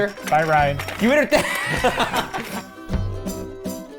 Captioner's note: laughs; jovial music